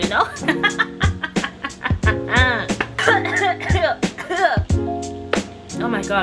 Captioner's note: laughs then chokes on air